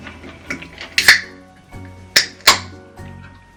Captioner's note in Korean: 음료수 캔 따는 소리, 치익- 딸깍